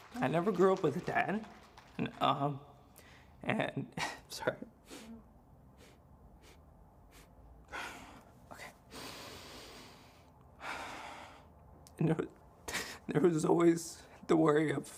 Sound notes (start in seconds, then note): 2.9 breathes deeply; 6.9 breathes deeply